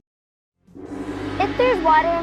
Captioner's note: gong